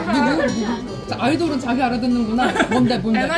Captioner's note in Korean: 웃음